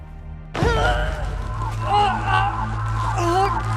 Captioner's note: N groans